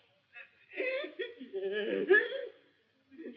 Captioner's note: sobs